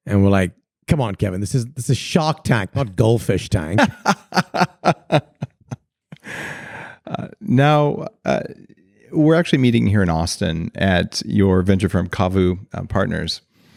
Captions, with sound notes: and we're like, "Come on, Kevin, this is Shark Tank, not Goldfish Tank." (laughing) - Now, we're actually meeting here in Austin at your venture firm, Cavu Partners